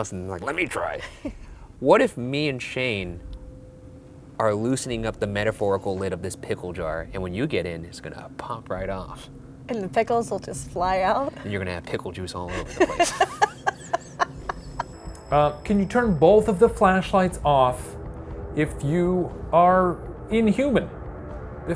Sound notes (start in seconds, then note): 12.4 both laughing